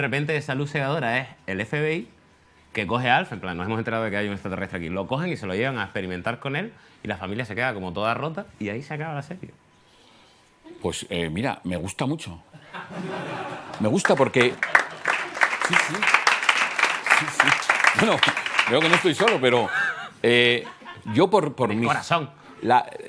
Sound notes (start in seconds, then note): 12.5 laughter; 15.4 applause